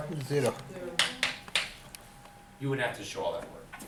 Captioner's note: voiceover